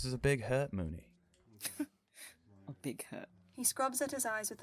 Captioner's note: Remus laughs